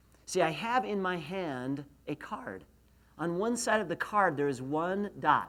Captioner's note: none